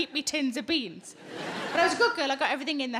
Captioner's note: audience laughs